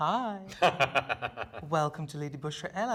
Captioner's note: laughing